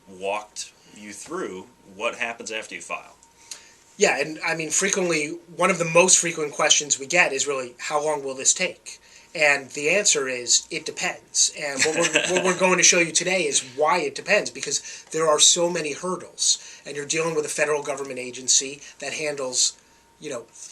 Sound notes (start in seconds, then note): 11.8 chuckles